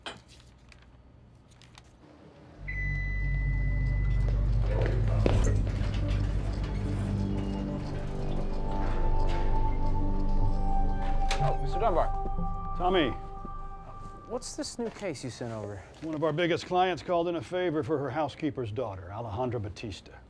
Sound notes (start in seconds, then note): 2.6 elevator pings; 3.9 suspenseful music